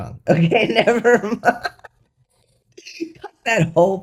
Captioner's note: laughter